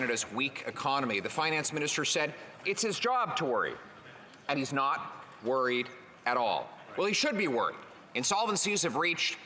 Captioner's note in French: voix de l'interprète